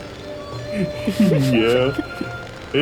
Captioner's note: laughing